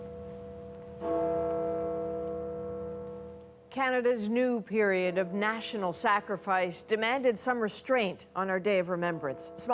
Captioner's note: bell tolling